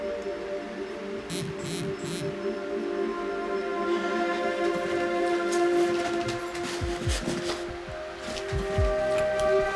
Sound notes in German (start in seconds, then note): 1.3 Das Handy vibriert